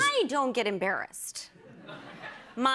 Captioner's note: laughter